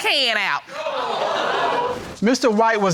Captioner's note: audience exclaims